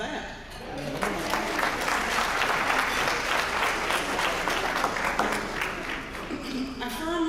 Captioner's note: applause